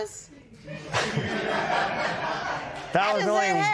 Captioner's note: laughter